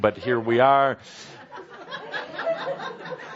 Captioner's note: laughter